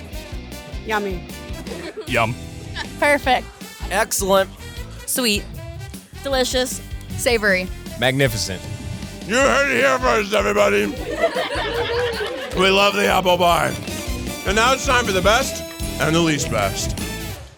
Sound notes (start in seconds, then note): 11.0 fans laughing